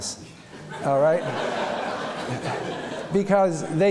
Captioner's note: laughter